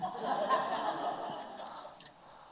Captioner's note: laughter